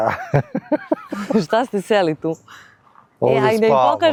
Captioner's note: laughs